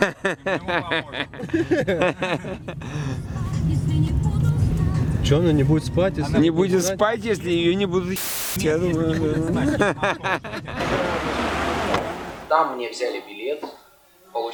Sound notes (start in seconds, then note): 3.2 radio